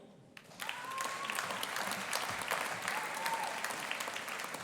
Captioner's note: audience applauding